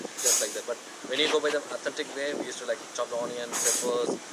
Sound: wind blows

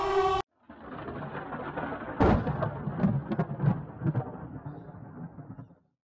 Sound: sound of thunder

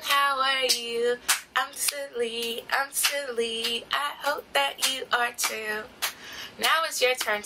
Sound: clapping; clapping

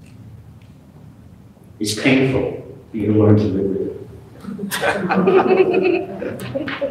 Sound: laughter

